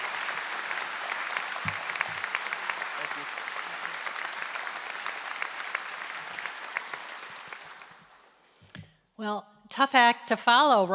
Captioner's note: applause